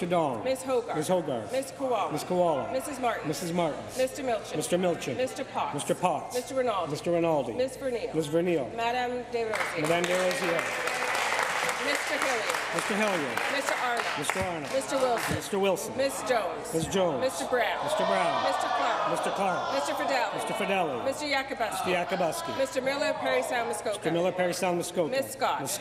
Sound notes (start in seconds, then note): 15.4 applause